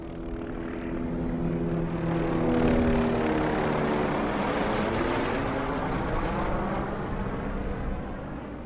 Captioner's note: helicopter whirling